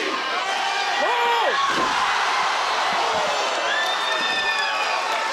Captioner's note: crowd cheering